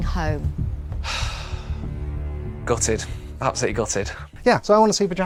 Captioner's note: sighs